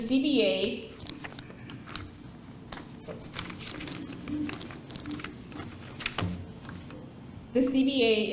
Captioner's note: paper rustling